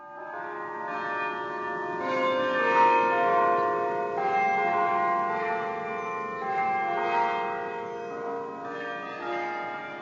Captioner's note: church Bells